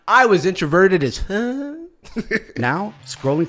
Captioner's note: chuckles; whimpers